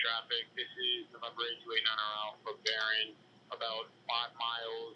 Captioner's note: radio